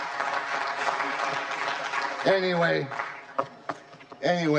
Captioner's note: laughter; applause